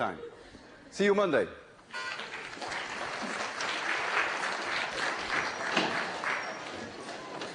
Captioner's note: applause